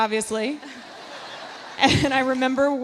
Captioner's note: audience laughs